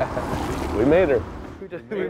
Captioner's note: laughs